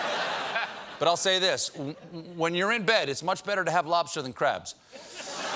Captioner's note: laughter